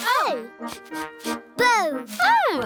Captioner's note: sniffing